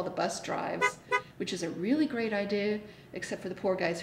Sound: horn honks

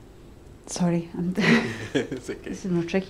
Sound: chuckles

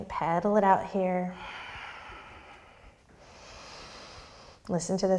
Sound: deep breath

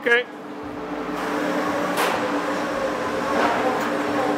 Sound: machinery whirring

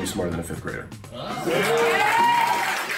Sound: cheering

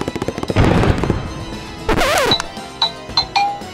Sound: door slams

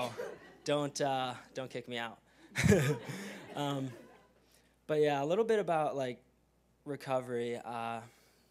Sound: laugh

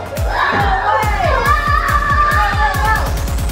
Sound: screaming

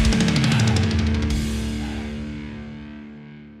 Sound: heavy breathing

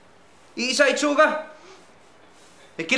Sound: sniffs

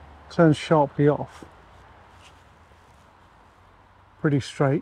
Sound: pages rustling

